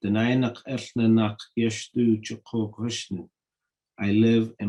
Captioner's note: speaking in Native language